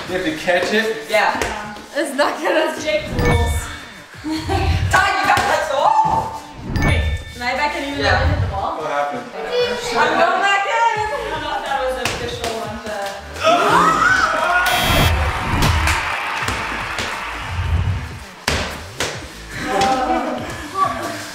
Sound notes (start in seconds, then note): 14.6 buzzer; 18.4 ball bouncing